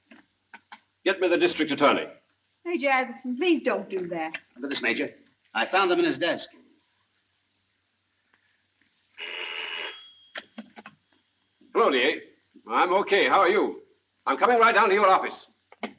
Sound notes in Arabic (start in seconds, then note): 9.2 يرن الهاتف